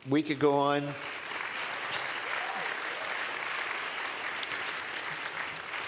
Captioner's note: applause